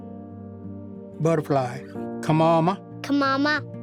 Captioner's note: repeats in Cherokee